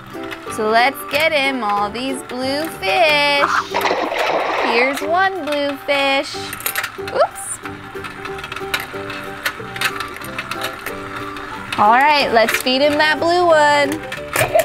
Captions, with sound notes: So let's get him all these blue fish. (water splashes) Here's one blue fish. Oops. Alright, let's feed him that blue one.